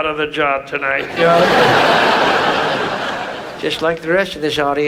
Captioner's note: audience laughs